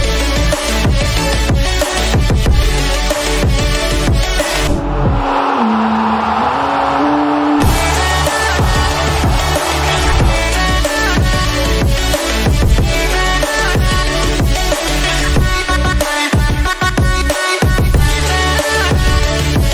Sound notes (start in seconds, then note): 4.4 crowd cheering; 8.8 upbeat music continues